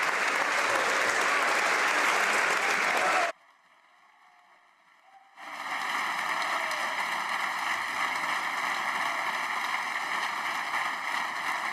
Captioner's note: some Applause